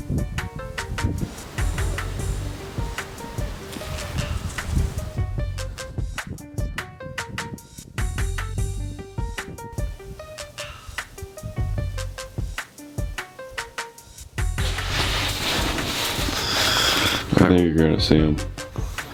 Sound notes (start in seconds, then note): 0.4 grass rustling; 6.7 wind whooshing